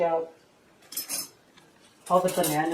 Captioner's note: clink